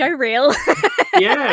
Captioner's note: laughs